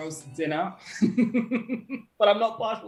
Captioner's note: laughter